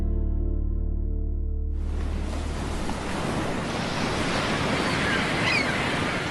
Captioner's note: seagulls squawking; waves murmuring; wind blowing